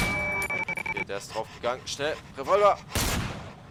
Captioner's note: weird glitchy sounds again; revolver shot